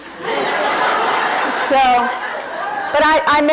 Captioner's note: audience laughing